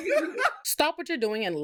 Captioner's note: laughing